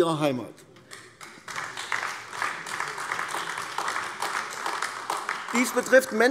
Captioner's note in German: Beifall AfD